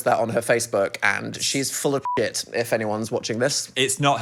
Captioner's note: beep